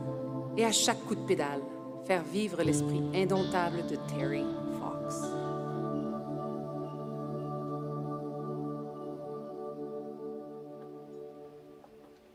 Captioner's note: speaking French